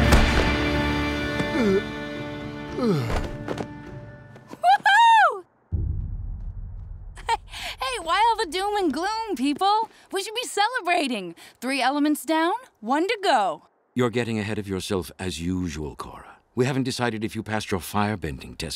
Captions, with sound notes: [groaning] Whoo hoo! [chuckles] Hey, why all the doom and gloom, people? We should be celebrating, three elements down, one to go. You're getting ahead of yourself as usual, Korra. We haven't decided if you passed your firebending test yet.